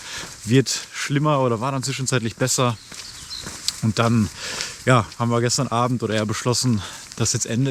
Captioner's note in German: Schnauben